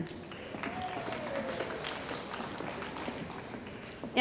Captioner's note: cheering & Applause